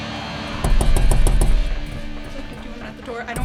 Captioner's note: door banging